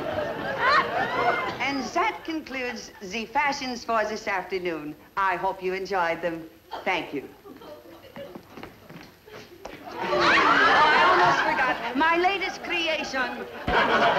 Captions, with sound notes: And zat concludes ze fashions for zis afternoon. I hope you enjoyed them. Thank you. (laughter) I'd almost forgotten. My latest creation.